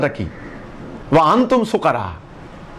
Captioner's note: Arabic